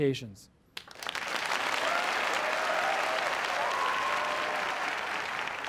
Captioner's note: applause